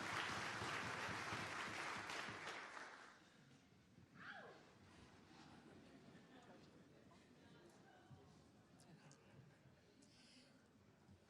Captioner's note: applause